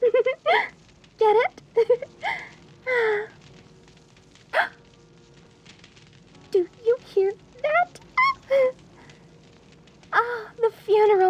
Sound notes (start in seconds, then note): 0.0 giggle; 2.2 gasp